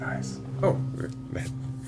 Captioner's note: whispers